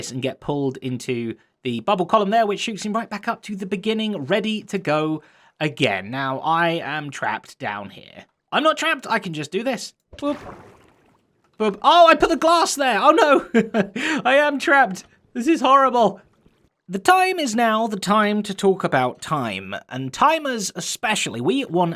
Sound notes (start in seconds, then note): 13.0 chuckles